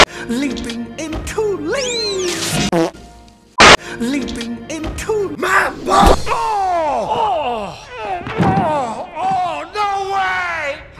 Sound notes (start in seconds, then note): 7.0 grunts in Pain